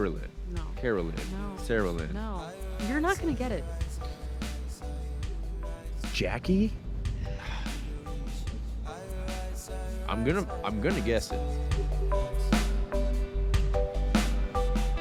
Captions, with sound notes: Kara-Lynn, Kara-Lynn. - No, no. - Sarah Lynn. - No, you're not gonna get it. - Jackie? (sighs) I'm gonna, I'm gonna guess it. (slow reggae music)